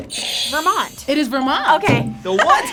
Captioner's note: buzzer squeals